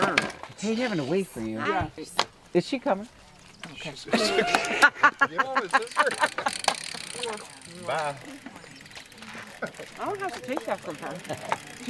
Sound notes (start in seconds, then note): 4.0 laughs